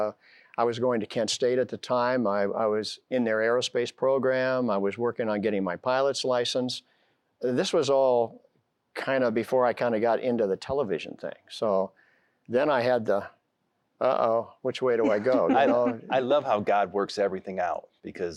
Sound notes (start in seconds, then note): 15.0 giggling